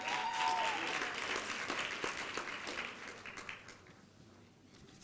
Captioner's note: applause and cheering